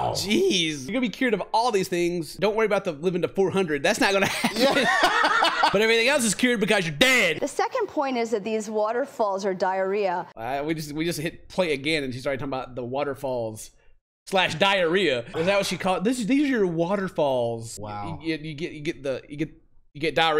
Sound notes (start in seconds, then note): 4.2 laughter